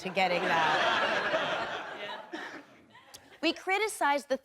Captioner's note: audience laughing